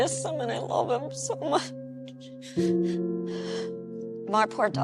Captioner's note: somber music; sobbing